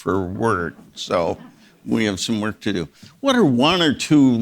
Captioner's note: audience members laughing